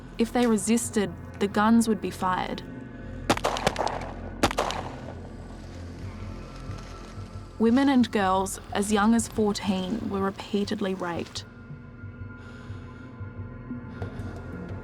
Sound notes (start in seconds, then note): 4.4 gun popping; 11.5 suspenseful music